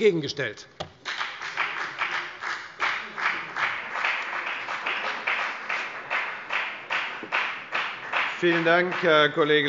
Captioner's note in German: Beifall bei der FDP